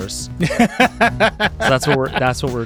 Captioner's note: laughing